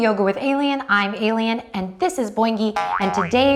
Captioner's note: boinging